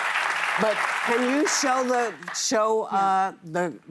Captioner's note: applause